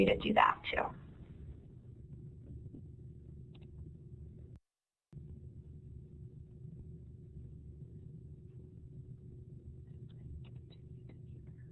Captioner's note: silence